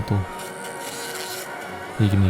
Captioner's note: bzzzzz